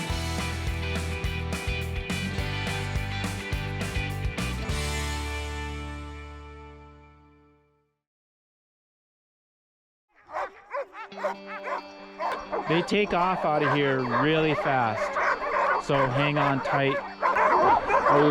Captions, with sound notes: (dogs barking) - They take off out of here really fast. So hang on tight.